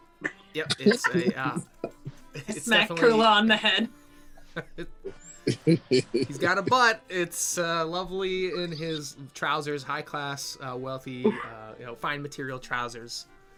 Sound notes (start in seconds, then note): 4.4 laughs